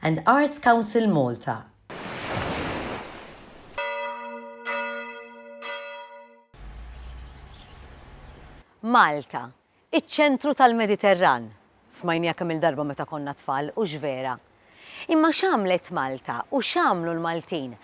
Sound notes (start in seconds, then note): 1.9 sea waves sound; 3.8 ringing bells; 6.6 birds tweeting